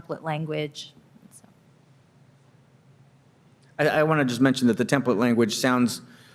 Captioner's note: muted